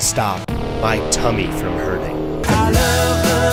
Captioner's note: bwowwww